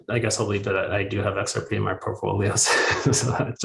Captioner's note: chuckles